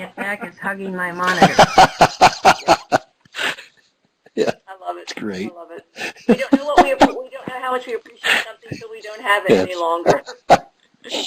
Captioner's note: laughs